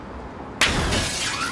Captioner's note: slap